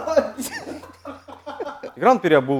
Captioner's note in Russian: смеётся